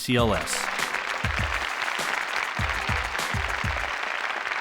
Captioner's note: audience applauding